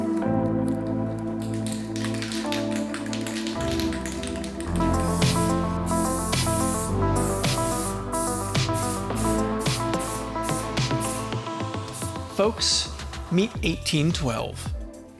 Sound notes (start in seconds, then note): 3.0 paint can rattles; 5.6 ssssssssss